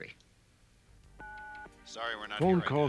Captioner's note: on answering machine